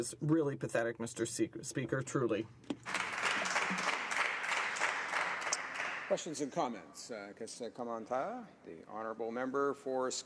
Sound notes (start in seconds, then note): 7.0 applause